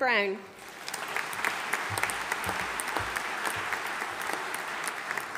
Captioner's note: audience applauding